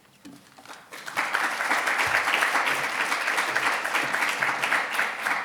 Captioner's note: audience applauding